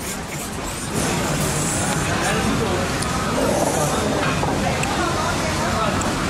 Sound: slurping

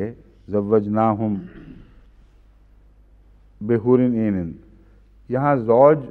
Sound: Arabic

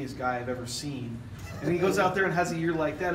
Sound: laugh

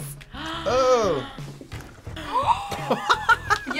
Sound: gasps; laughs

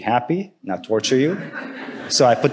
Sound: audience laughing

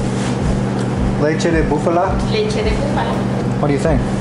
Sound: speaking in Mexican

